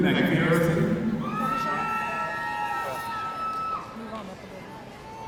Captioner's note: audience cheering